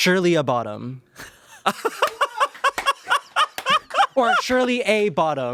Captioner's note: everyone laughs